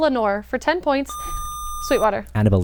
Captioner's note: buzzer